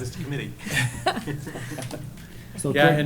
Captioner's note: laughter